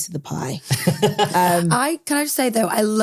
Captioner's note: laughs